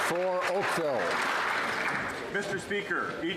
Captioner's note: some Applause